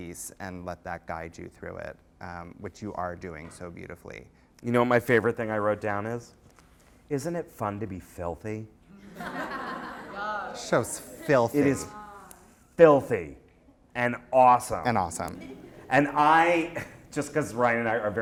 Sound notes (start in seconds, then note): 9.0 laughter; 10.7 voiceover; 15.1 voiceover